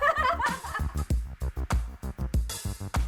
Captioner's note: laughs